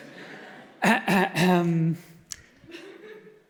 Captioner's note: clears throat